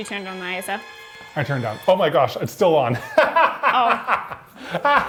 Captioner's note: laughing